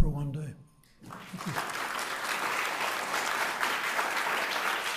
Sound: audience applauding

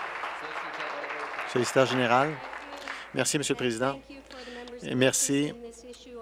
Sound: applause

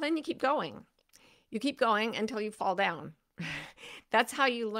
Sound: chuckles

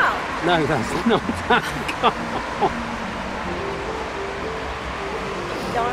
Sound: laughs

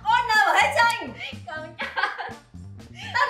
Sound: laughs

